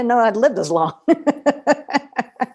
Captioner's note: laughter